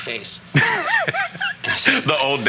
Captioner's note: laughing